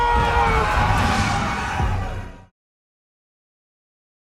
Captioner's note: shouting